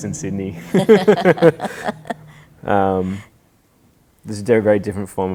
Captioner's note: laughing